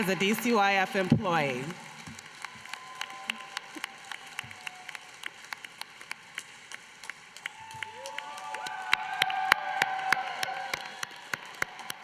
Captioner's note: applause